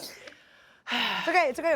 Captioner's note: laughs; sighs